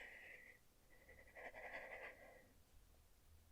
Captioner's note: shaky sigh